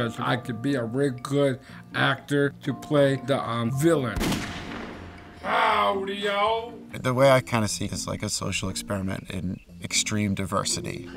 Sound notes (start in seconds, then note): 4.1 gunshot